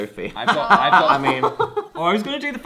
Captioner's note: laughs